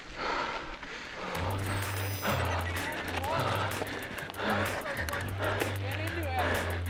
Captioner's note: panting; upbeat cheerful music